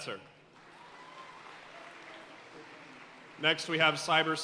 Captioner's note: audience cheering and applauding